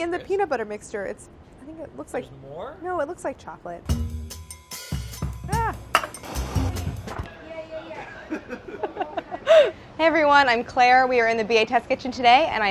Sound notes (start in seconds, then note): 3.9 upbeat music; 7.9 laughs